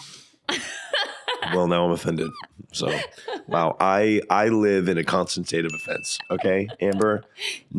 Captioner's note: laughing